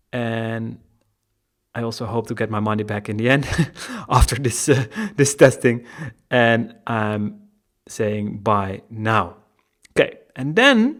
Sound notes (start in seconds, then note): 3.4 laughing